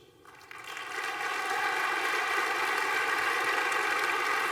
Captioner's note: applause